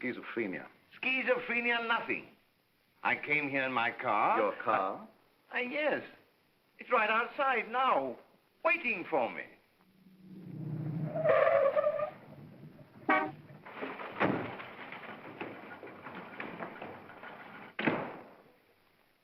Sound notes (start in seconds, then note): 9.8 car softly rumbling; 9.9 tires squeal; 12.9 horn honks; 13.1 door closes; 17.7 door bangs shut